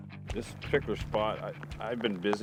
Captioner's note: rain pattering